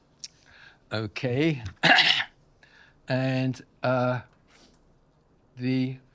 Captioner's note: coughs